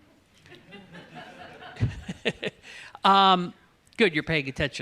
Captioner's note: laughter